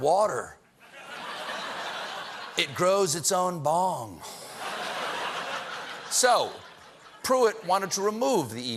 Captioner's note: laughter